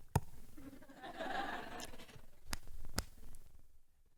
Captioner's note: light laughter